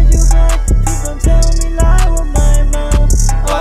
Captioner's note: Ohh